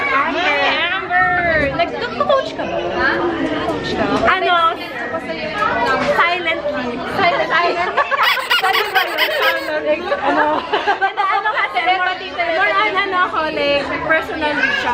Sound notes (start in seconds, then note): 8.2 laughs